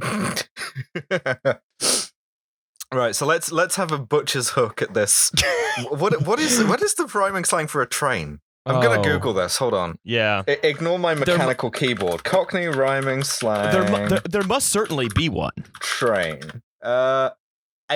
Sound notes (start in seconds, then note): 0.5 laughter; 10.6 loud mechanical keyboard